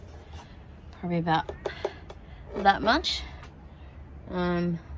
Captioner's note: taps on wood